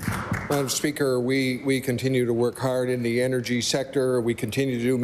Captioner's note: applause